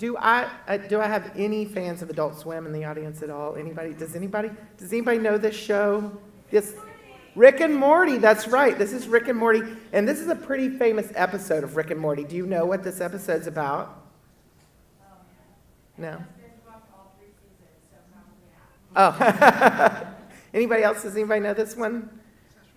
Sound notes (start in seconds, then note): 17.0 female speaks softly; 19.0 laughs